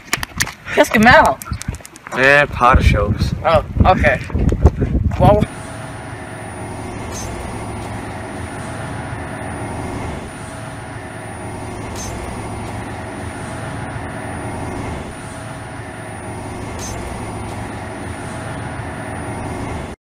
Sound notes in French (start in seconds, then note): 5.4 High Pitched Noise